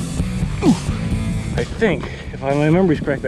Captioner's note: grunts